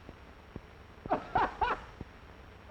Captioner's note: laughter